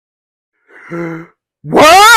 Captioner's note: gasp!